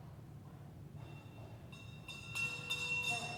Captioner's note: sound of a bell